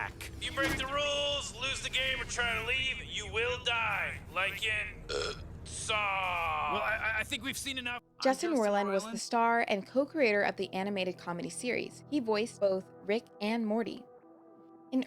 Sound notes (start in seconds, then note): 5.0 burp